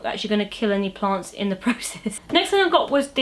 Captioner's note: laughs